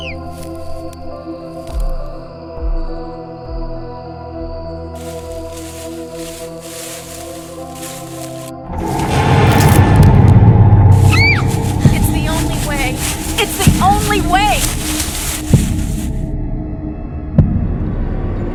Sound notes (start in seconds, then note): 10.3 jarring, tense music; 11.1 Samantha screams